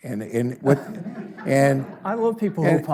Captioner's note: audience laughs